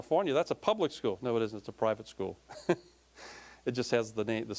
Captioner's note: laughing